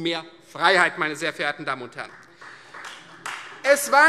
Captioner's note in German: Beifall Freie Demokraten